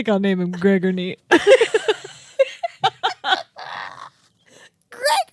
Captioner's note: laugh; laughing